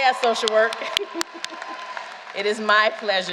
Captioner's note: applause